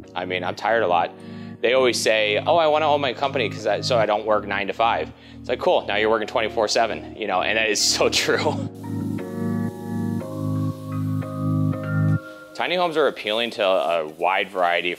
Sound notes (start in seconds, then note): 8.0 sprayer hisses; 9.3 soft upbeat music